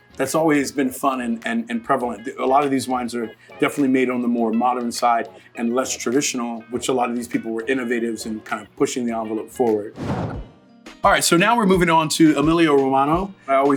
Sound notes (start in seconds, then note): 9.9 dramatic whooshing